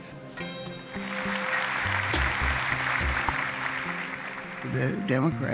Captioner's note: applauding